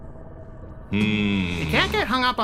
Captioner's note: Beebs grumbling